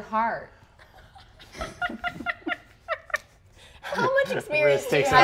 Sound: laughing

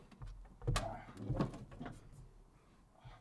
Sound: grunts

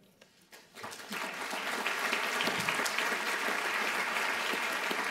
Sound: applause

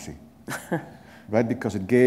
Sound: chuckle

